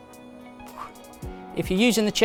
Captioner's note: exhales